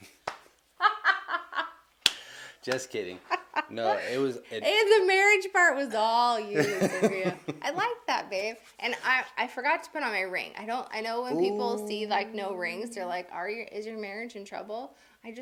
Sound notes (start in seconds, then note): 0.8 both laughing; 6.6 laughing